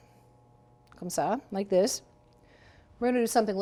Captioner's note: speaking in foreign language